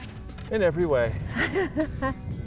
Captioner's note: laughing